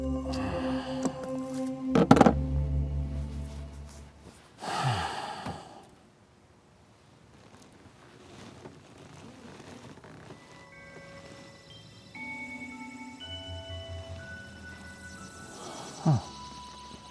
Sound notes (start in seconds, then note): 3.2 object rustles; 4.6 person sighs